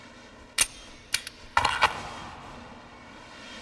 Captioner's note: gun cocks